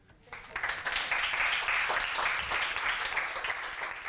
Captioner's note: audience applauding